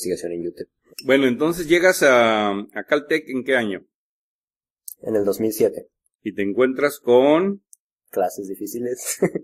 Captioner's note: laughs